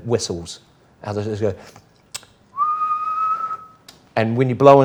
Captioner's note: whistles